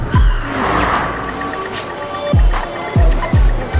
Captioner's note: airplane whooshing; tires screeching